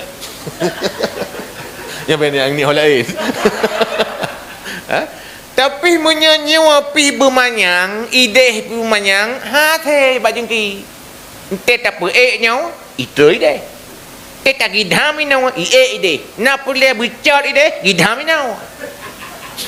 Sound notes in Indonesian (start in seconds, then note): 3.0 tertawa